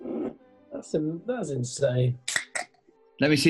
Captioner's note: opens can